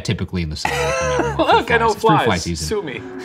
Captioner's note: laughing